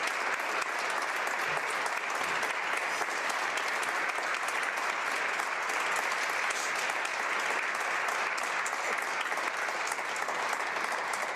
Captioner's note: applause